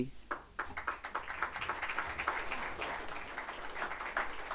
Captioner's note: audience applauding